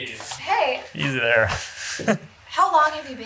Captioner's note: chuckles